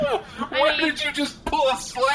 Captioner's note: laughing incredulously